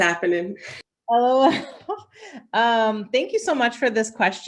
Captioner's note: laughs